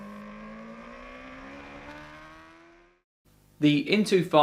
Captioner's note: motorbike engine roaring